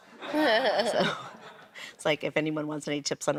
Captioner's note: laughs